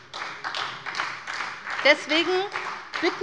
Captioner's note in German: Beifall bei der SPD